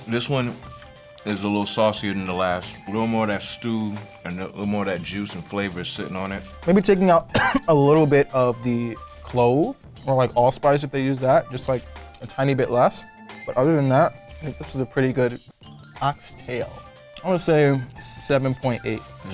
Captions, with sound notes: - This one is a little saucier the last. A little more of that stew and little more of that juice and flavors sitting on it. - Maybe taking out (coughs) a little bit of the clove or like allspice if they use that, just like a tiny bit less. But other than that, I think this is a pretty good oxtail. I wanna say seven point eight.